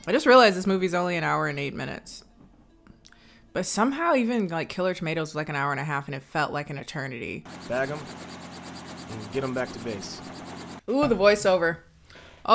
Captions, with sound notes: I just realized this movie is only an hour and eight minutes, but somehow even, like, "Killer Tomatoes", is like an hour and a half, and it felt like an eternity. - Bag 'em and get 'em back to base. (helicopter blades whirl) - Oh, the voiceover.